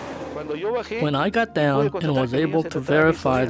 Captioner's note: speaks in foreign language